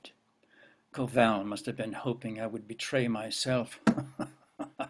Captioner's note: laughs